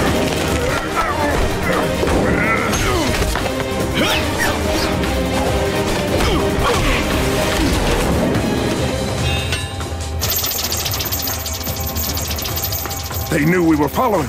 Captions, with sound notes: [grunting] [grunting] They knew we were following them.